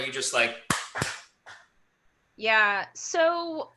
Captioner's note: claps